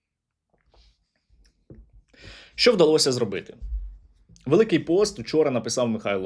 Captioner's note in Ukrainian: сопіння